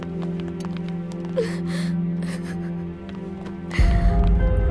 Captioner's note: Sobbing